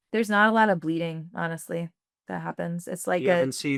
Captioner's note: laughs